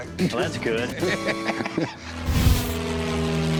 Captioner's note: laughter